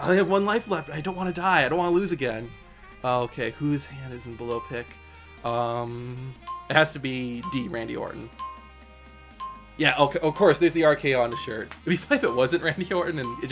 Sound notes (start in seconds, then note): 8.2 countdown timer ticks down